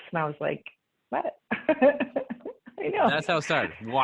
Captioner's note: laughing